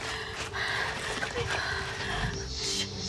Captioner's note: all panting; snake hissing